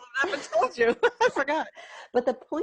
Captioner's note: laughs